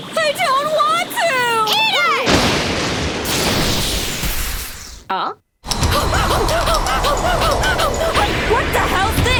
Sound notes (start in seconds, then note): 2.2 thunder crashes; 2.2 electricity crackles; 5.9 panting